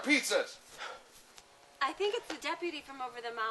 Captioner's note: deputy gasps